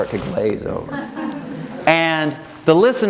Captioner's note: audience laughing